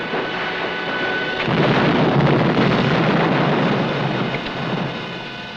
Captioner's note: explosion blasting